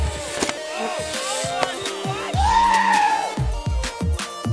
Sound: shouting and cheering

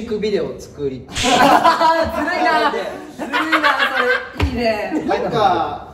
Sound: laughs

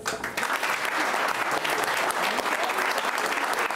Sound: applauding

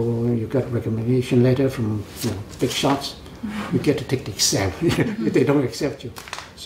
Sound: laughs

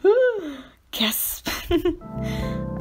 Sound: gasp

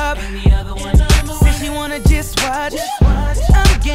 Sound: woo

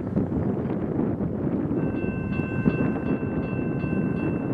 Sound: level Crossing Bell sounds

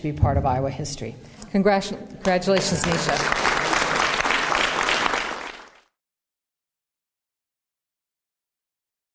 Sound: applause

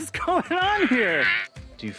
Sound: monster sounds

